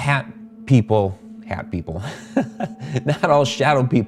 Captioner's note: laughs